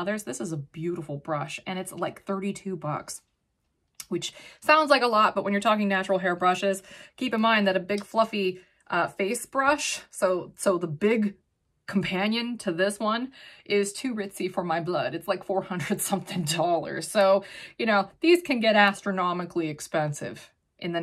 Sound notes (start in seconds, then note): 15.8 chuckles